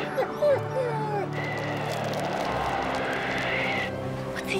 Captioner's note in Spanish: perro lloriqueando